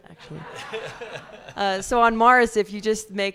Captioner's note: audience laughs